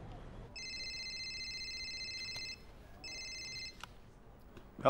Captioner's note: phone ringing